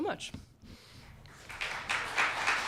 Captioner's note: applause